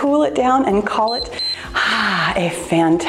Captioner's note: timer beeps